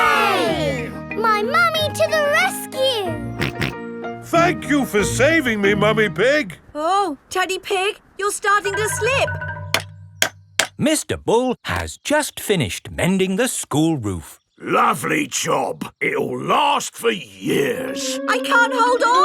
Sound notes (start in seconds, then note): 3.4 snorting; 10.4 clanking